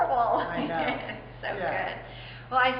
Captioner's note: laughter